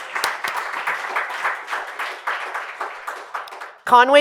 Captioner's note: applause